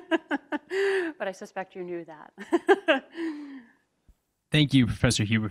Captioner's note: laughs